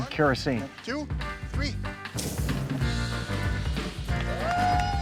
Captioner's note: flame engulfs; upbeat music; audience cheering